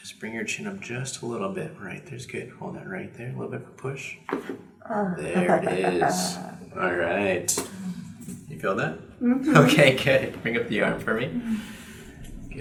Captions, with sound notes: just bring your chin up just a little bit. Right? There's good. Hold that right there. A little bit of a push. (neck cracks) - Uh. (laughs) - There it is. All right. You feel that? - Mm-hmm. - Okay, good. Bring up the arm for me.